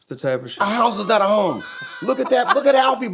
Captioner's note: laughing